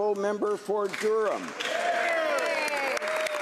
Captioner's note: applause